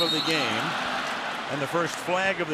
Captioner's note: crowd clamoring